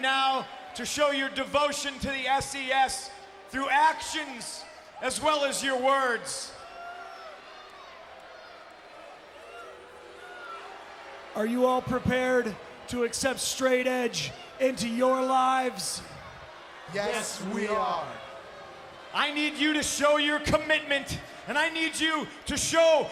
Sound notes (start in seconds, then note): 7.0 applause